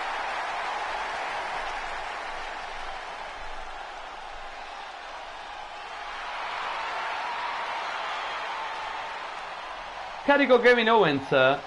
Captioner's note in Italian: applauso